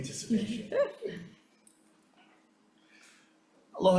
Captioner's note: laughing